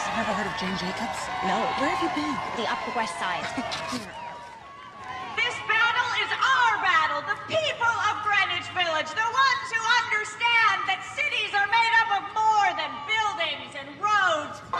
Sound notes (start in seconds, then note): 3.4 laughter